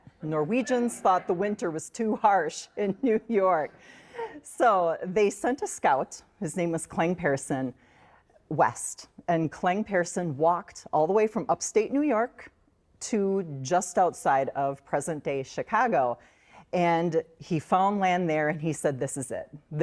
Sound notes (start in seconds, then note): 2.7 chuckles